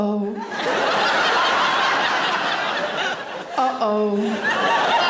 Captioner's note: audience laughing